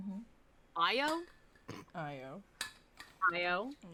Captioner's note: snort